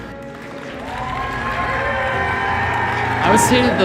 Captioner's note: applause